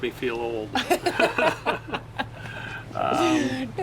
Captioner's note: both laugh